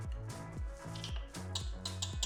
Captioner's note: tapping